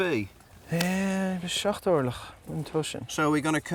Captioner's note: speaking Gaelic